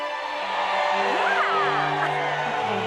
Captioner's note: crowd cheering